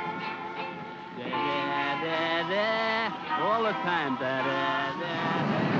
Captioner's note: airman mocks music; aircraft rumbles